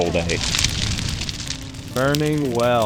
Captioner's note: fire crackling